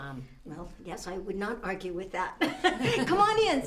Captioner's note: all laughing